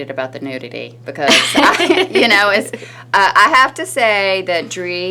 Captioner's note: laughing